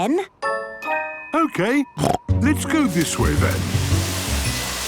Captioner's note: snorting